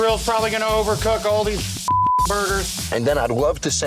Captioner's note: beep